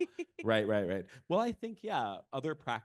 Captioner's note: laughing